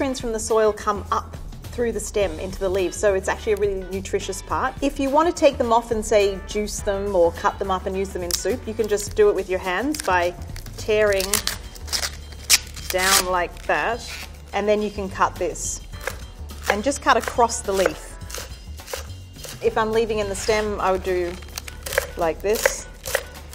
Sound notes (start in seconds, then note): 10.9 leaves tearing creakily; 17.2 knife tapping against wooden board